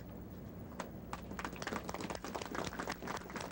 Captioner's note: applause